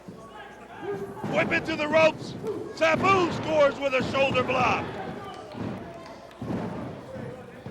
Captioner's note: crowd chatter